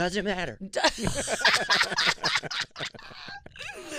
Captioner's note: laughing